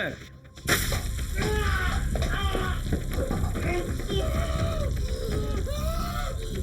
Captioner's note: liquid splashing; Eric groaning